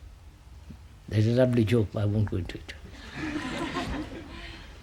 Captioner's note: laughter